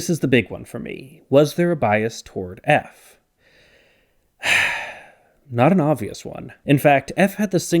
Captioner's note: sigh